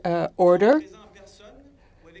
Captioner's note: speaking French